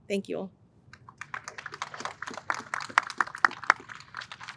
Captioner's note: audience applauds